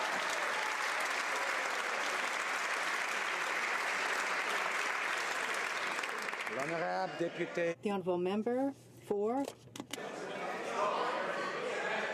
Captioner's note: some Applause